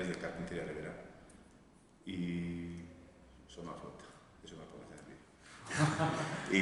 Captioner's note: laughs